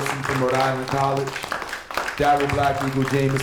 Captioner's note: applause